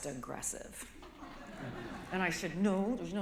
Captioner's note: laughter